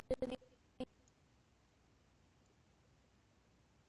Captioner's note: audio skipping